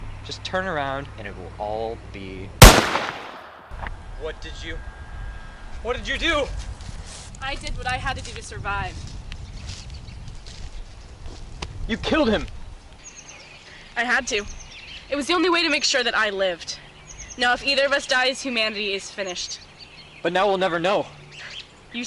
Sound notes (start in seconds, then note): 2.6 bang!